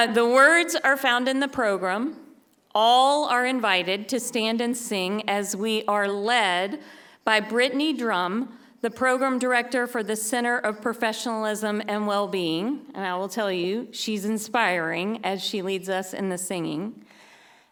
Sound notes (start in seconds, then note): none